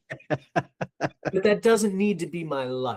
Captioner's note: laughing